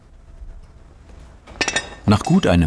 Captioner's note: clanging of metal